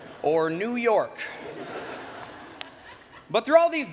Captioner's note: laughter